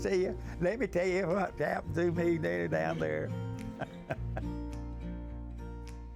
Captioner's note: chuckles